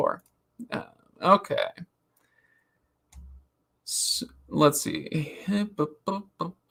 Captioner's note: hums